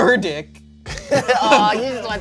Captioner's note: everyone laughs